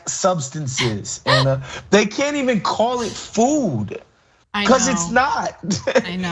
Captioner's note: laugh